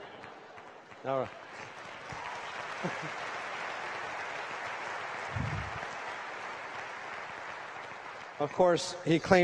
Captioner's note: applause